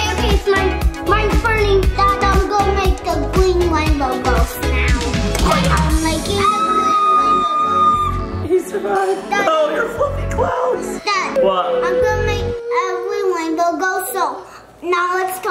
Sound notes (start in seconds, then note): 6.2 screams